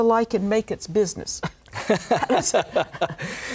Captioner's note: laughter